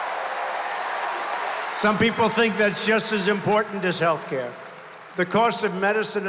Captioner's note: applause